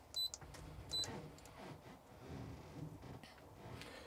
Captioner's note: beeping